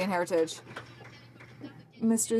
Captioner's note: some Applause